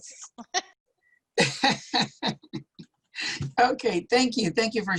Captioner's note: laughter